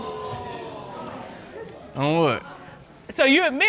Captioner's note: audience groan